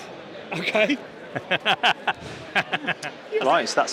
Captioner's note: both laughing